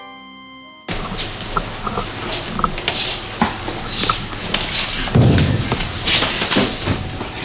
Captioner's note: crashing